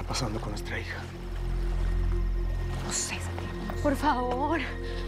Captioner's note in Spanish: En voz baja; Susurra